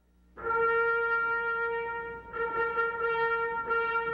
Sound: horns blare

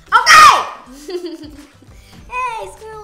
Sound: laughing

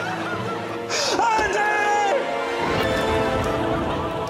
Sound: cries histerically; screams

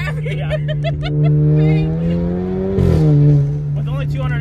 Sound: laughs; engine revving

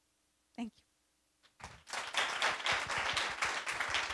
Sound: audience applauds

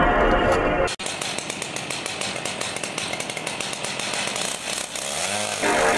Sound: chainsaw clicking

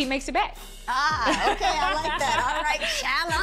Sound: chuckles; laughs

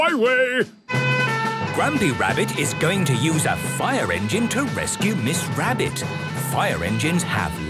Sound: sirens

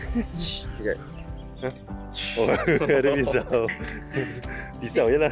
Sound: laugh

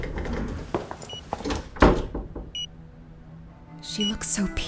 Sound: monitor Beeping

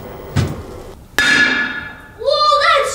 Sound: hammer clangs on screen

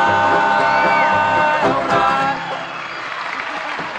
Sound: music ends, cheers and applause

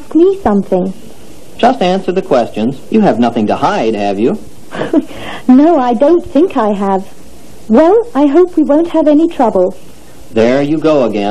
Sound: laughs

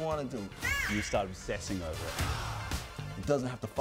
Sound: exclaims

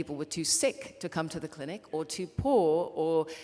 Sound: none

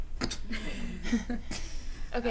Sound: laughter

